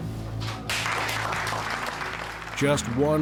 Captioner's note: group applauding